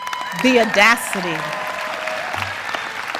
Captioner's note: applause